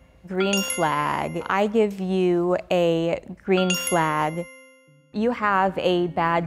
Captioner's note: bell dings; bell dings